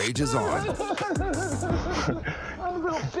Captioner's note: chuckles; imitating child crying